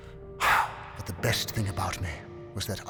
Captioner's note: sighs